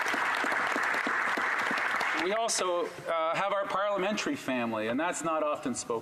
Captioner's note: applause